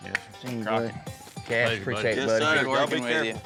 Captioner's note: all chatting